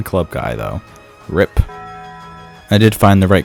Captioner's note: taco bell bong